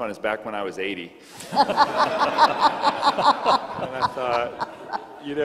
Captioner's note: crowd laughing